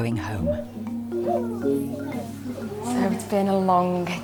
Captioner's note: gentle music; dog whining